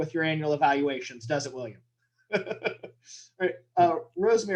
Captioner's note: chuckles